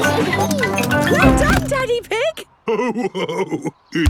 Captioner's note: giggles; laughing